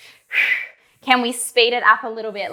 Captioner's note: breathing sharply